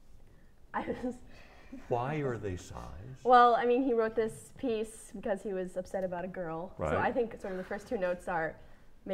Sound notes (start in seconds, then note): 1.8 laughing